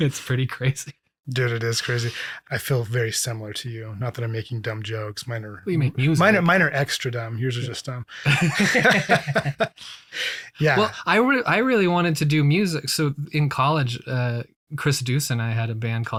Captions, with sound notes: It's pretty crazy. - Dude, it is crazy. I feel very similar to you, not that I'm making dumb jokes. Mine are- - You make music. - Mine are extra dumb, yours are just dumb. (both laughing) Yeah. - Well, I really wanted to do music. So in college Chris Deuce and I had a band